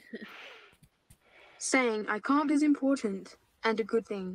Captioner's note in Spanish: Voz Computarizada